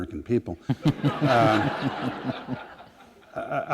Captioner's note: laughter